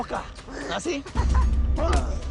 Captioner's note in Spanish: Risas